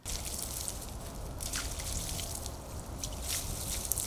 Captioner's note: water splashing